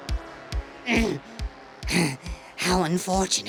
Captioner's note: groans